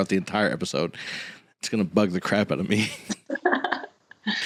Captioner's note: laughs